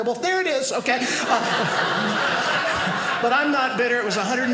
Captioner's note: audience laughing